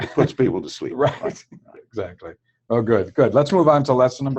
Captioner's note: laugh